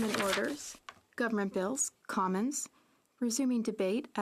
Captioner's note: speaking French